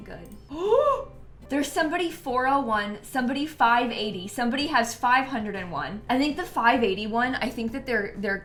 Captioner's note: gasps